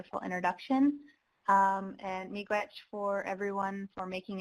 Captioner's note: speaking foreign language